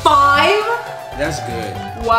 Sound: crowd cheering

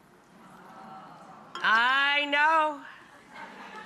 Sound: audience ahhing

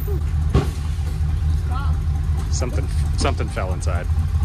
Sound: engine Sounds

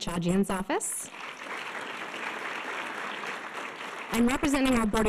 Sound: audience applause

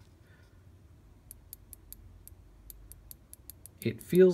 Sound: click click click click click click

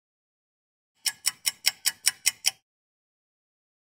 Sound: sound of a ticking clock

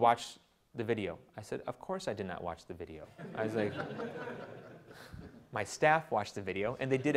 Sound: audience laughter

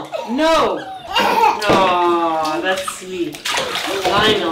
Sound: children laughing

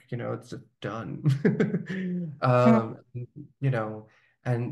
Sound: laughing

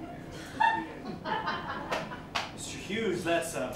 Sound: laughter

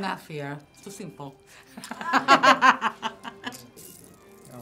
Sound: laughs

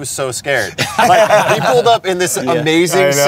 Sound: group Laughs

